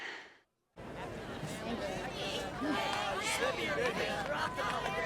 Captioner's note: crowd chatting